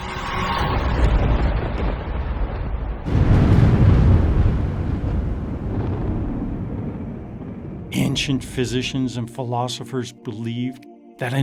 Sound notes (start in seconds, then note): 0.0 dramatic music; 3.2 explosions booming; 6.8 ethereal music